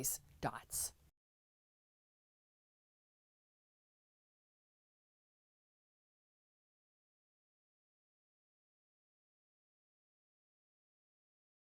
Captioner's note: no Sound Present